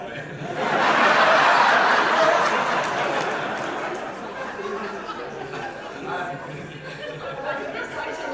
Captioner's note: big audience laughter